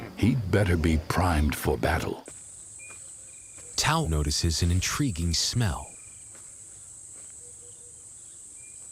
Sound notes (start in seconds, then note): 2.3 crickets chirring